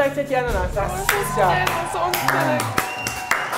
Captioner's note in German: Jubel, Applaus, Tränen